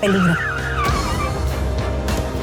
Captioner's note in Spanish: Chirrido de llantas